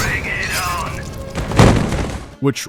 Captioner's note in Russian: рэгдольный хвоп